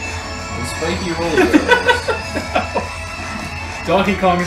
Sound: laughs

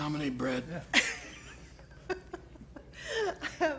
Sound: laughter

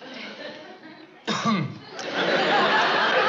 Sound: coughs

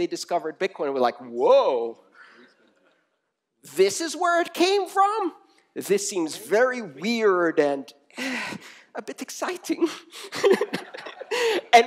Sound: laughter

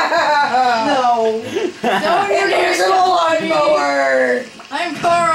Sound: laughing

